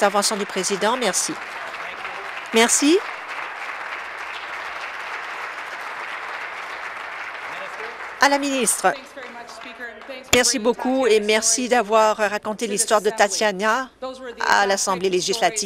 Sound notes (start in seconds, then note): 3.3 applause